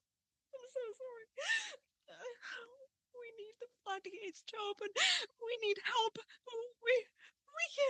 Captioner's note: sobbing